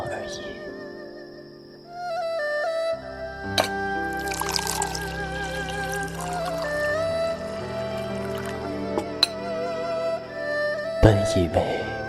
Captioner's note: pouring water